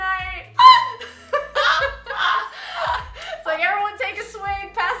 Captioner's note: laughing